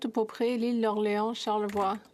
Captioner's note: speaking French